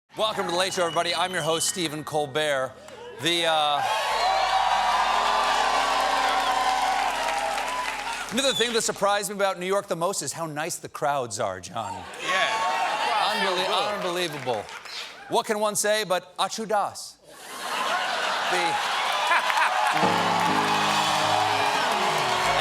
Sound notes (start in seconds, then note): 2.8 cheers and applause